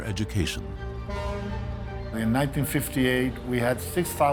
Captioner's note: ship horn blares